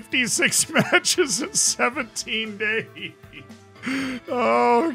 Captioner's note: laughs